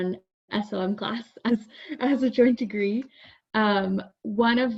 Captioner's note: chuckles